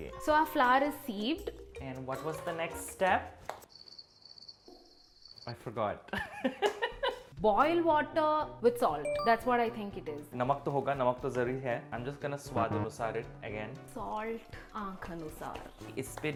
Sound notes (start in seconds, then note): 3.6 crickets chirping; 6.5 laughs